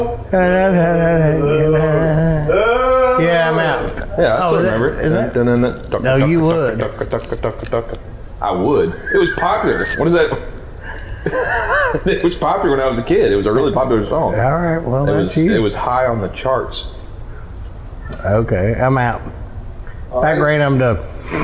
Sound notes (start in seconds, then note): 0.3 humming with song; 5.3 sounding movement